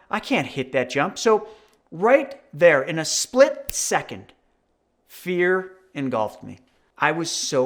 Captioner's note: snaps